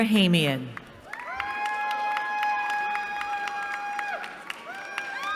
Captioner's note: cheering